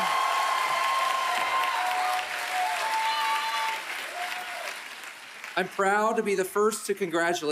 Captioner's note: applause